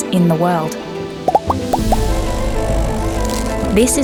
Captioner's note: popping